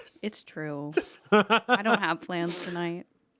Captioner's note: laugh